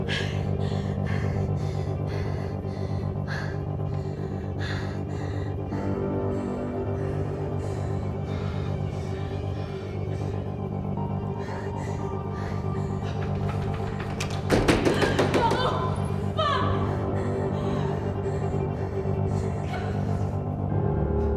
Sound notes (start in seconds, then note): 0.2 Jane pants; 0.2 slips, tense music; 14.6 door rattles; 17.6 slips, tense music